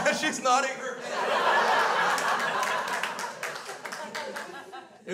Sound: crowd laughs

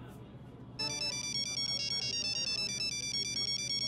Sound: mobile phone chimes

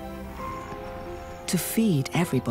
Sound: birds chirping

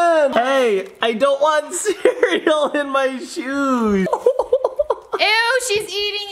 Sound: laughing

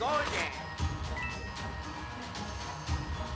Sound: video game sounds

